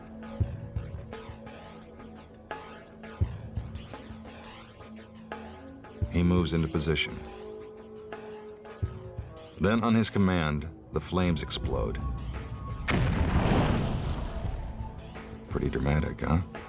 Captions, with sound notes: (light dramatic music) He moves into position. Then on his command, the flames explode. (flames rustling) Pretty dramatic, huh?